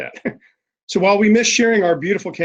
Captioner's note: chuckles